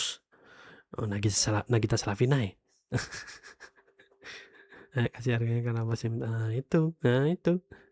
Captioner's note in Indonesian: tertawa